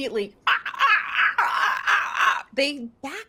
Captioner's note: mimicking squawking